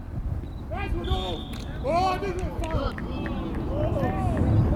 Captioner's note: whistle